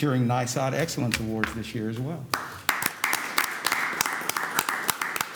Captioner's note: applause